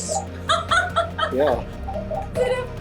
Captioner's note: laughs